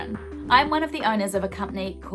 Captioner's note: swooshing